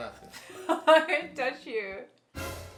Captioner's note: laughs; dramatic beat